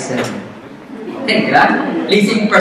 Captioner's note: audience laughs